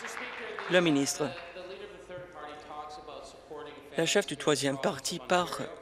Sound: applause

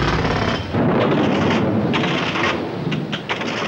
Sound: explosion

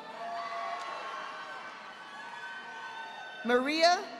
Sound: audience applauding

